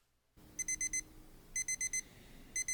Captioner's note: alarm beeps